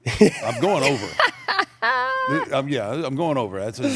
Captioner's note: laugh